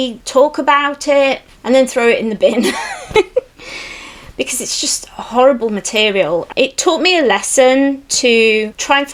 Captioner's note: laughs